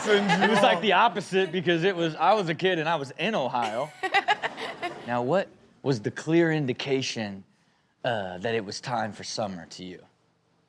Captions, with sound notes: It was like the opposite because I was a kid and I was in Ohio. (laughs) Now what was the clear indication that it was time for summer to you?